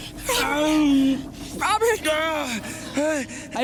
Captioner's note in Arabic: روبرت يتذمر; روبرت يئن بشدة; صوت جين متكسر